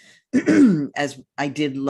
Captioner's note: clears throat